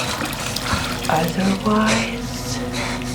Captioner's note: faucet running